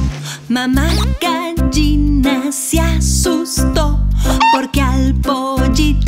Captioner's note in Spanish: Sonido de gallina